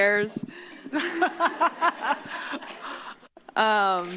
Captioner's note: laugh